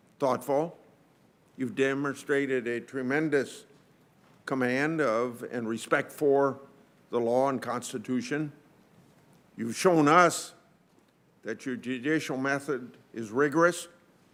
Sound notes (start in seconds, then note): none